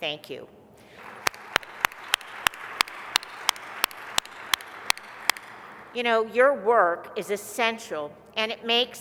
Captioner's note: applause